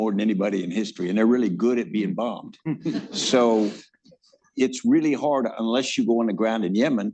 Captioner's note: laughter